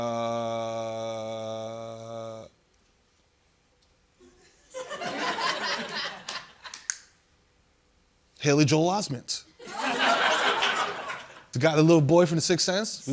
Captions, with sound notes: [LAUGHTER] Haley Joel Osment! [LAUGHTER] The little boy from "The Sixth Sense,"